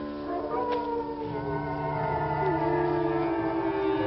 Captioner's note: eerie music; wolves howling